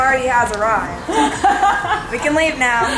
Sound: laughs

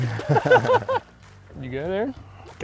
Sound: both laughing

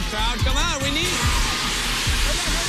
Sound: steam hissing

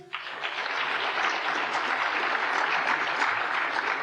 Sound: applause

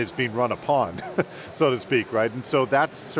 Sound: laughs

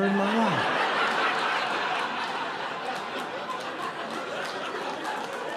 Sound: audience laughing

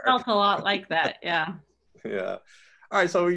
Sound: laughing

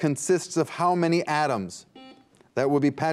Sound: buzzer beeps

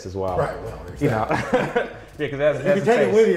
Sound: laughs

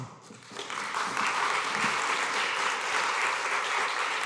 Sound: applause

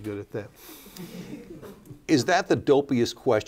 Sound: laughter

